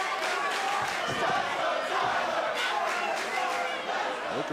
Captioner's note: fans chanting